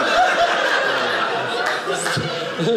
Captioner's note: audience laughing